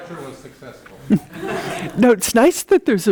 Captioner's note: audience laughing